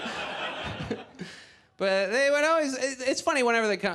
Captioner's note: audience laughs